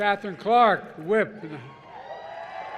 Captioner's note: applause